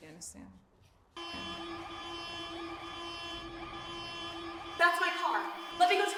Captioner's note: alarm blaring